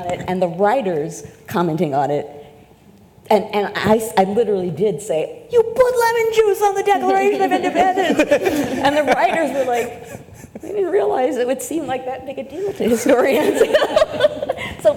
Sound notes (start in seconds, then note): 7.5 panelists laugh; 12.7 laughs